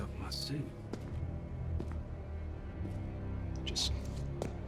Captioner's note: footsteps